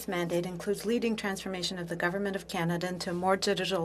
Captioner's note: speaking French